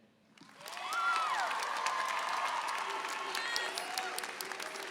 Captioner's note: applause and cheering